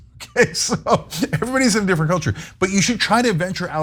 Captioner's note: laugh